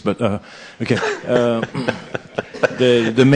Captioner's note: laughs